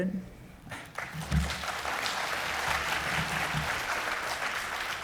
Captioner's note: audience applauding